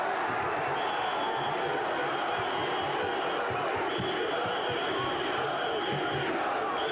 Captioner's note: crowd chanting; whistle blowing